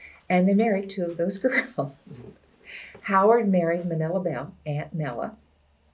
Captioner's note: laughs